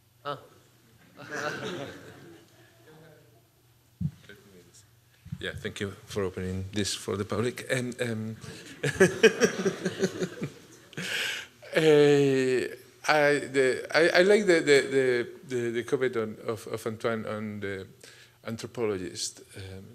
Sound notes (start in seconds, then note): 8.5 laughs